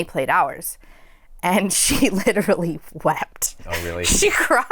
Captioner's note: laughter